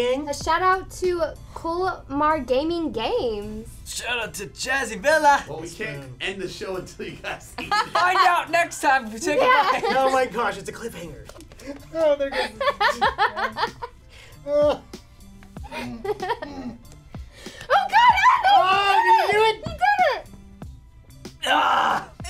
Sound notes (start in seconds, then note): 11.1 groaning; 12.3 laughing; 14.4 groaning